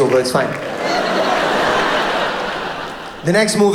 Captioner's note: audience laughs